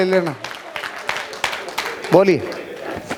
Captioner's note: rounds of applause